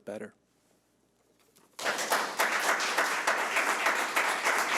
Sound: audience clapping

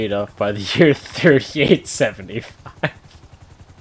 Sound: laughs

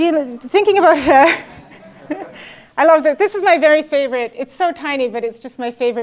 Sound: laugh

